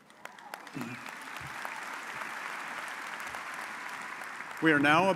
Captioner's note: audience applauds